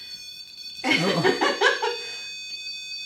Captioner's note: beeping